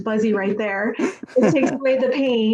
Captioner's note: laughing